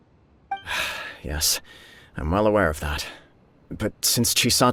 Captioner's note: sigh